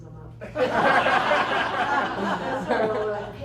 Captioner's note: laughter